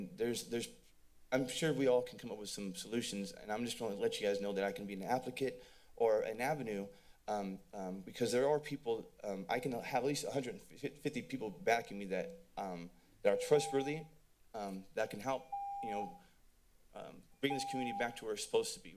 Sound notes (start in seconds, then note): 15.6 timer sounds